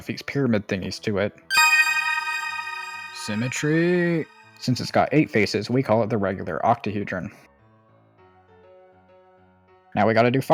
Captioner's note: ding